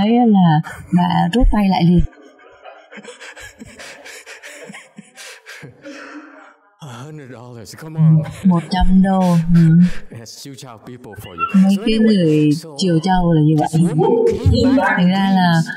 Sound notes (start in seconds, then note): 0.2 laughter; 8.0 laughter